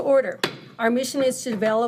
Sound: gavel thudding

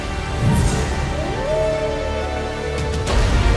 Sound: wolf howl

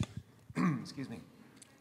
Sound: clears throat

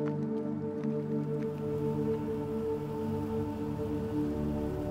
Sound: water lightly splashing; solemn music

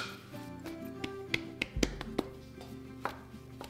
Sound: patting

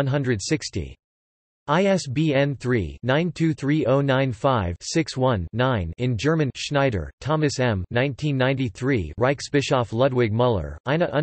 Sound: in German

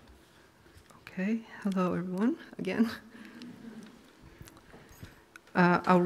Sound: laughs

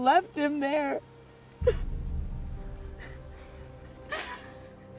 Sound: crying

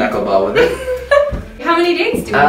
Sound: laughter

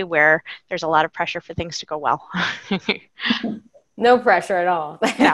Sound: laughing

